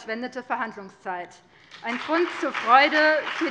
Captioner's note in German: Beifall BÜNDNIS 90/DIE GRÜNEN und vereinzelt CDU